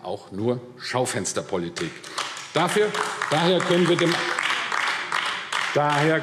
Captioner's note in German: Beifall AfD